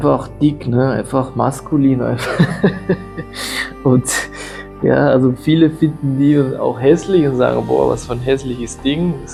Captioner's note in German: gelächter